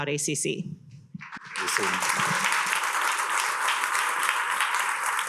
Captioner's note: attendees applauding